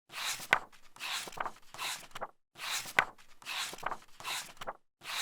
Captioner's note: pages turning